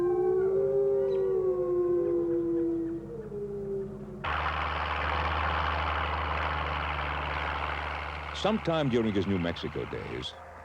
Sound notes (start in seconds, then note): 4.1 loud diesel engine chugging